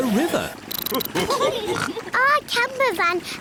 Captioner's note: all laugh